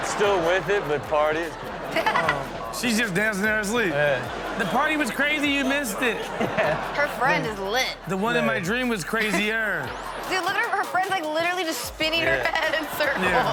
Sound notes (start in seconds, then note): 1.9 Chanel laughs